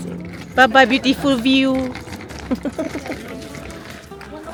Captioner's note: laugh